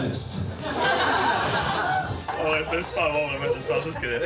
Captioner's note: laughs